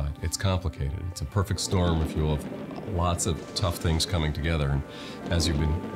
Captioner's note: thunder in background